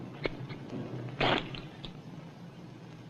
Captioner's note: scissor snips; material tears